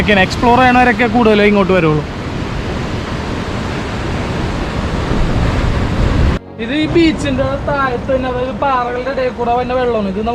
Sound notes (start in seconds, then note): 2.5 rumbling of sea